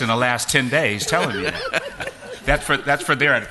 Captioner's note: laughter